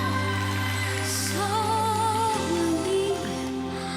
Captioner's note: crowd cheers, applauds